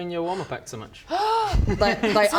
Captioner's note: gasp